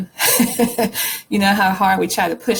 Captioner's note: laughs